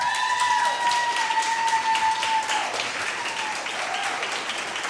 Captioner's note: audience applauding